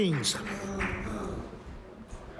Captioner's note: applause